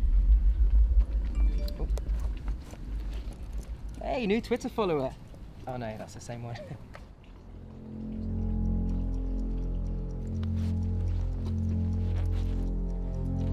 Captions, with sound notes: *Mobile Text Tone* -Hey, new Twitter follower... oh no, it's the same one.